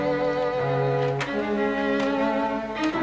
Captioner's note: door opens